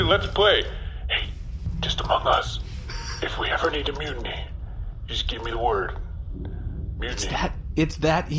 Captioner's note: whispering